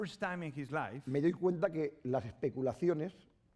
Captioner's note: speaking spanish